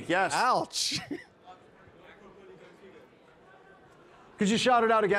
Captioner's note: participant faintly speaking